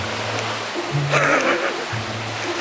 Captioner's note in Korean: 웃음